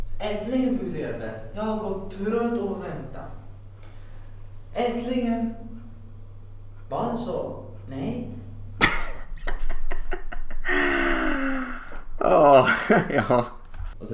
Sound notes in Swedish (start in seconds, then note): 8.8 Skrattar